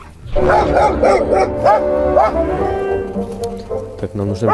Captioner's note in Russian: лай собаки